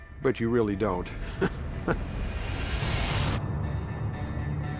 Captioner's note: chuckles